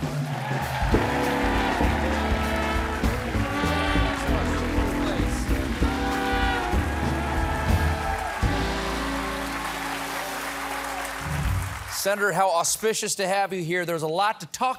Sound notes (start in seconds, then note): 2.5 band playing; 2.5 cheers and applause